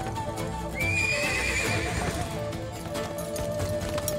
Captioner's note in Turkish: At kişneme sesi